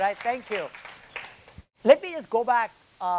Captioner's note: attendees applauding